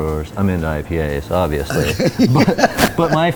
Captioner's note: both laugh